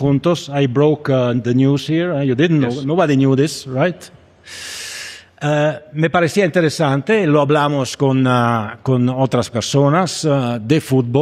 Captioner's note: speaking Spanish